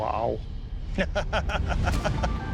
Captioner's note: laughter